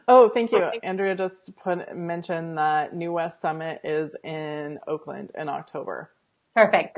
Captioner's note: laughing